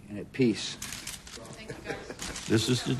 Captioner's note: chuckling